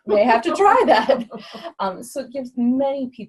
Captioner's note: laugh